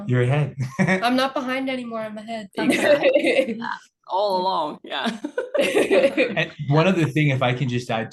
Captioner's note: laughing